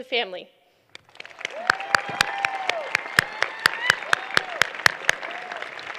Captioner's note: applause